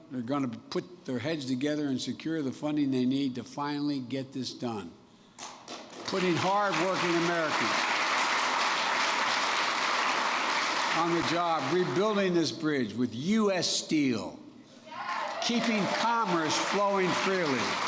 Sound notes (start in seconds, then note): 5.4 applause; 15.0 applause